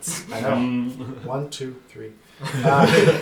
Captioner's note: all laugh